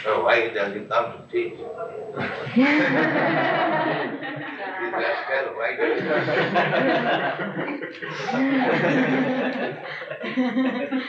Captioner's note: laughter